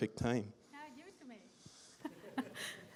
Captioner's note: laughter